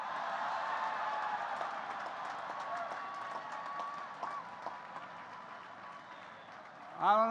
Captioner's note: applause